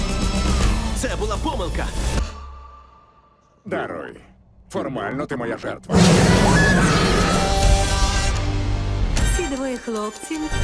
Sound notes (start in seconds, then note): 5.9 roars; 5.9 screams